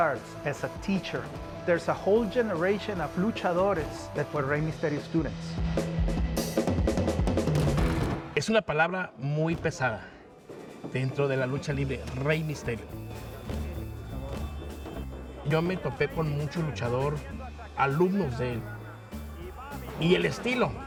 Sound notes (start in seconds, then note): 8.6 speaking Spanish